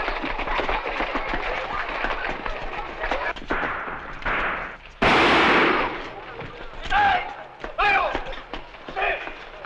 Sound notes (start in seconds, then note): 5.0 gunshot; 7.0 non-english speech